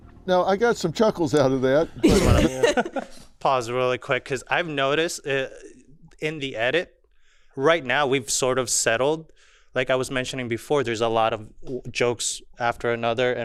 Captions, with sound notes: - Now, I got some chuckles outta that. (all laughing) - Gonna pause really quick, 'cause I've noticed in the edit, right now, we've sort of settled. Like I was mentioning before, there's a lot of jokes after another,